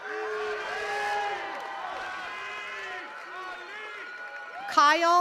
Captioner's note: attendees cheering and clapping